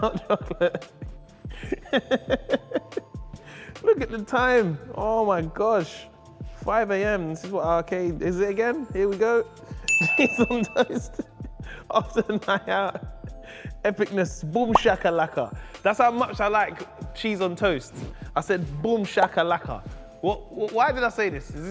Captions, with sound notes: (laughs) Look at the time, oh my gosh. 5 AM. This again, here we go. (ding) Cheese on toast after a night out. Epicness boomshaklaka. That's how much I like cheese on toast. I said boomshaklaka. Why did I say this?